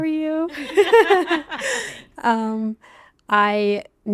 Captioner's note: hosts laughing